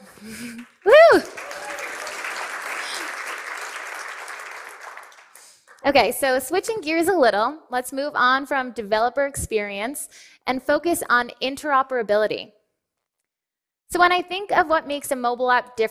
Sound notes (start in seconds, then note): 0.0 cheering and applause